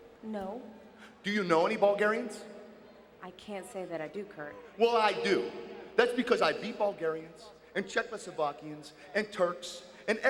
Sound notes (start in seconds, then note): none